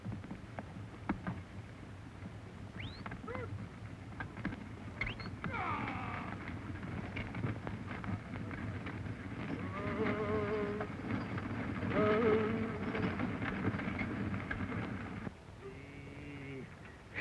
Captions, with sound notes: [whistle] Gaw. Whoa. Ooh.